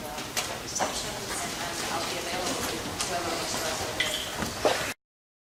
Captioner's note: shuffling of feet